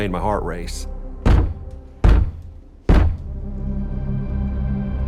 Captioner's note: loud banging